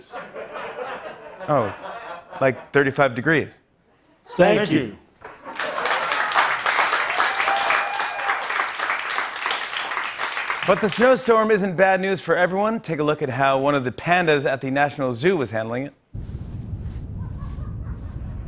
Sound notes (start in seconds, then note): 0.0 laughter; 5.2 applause